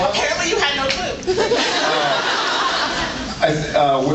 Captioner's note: laughs